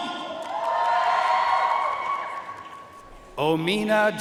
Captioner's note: audience cheering and applauding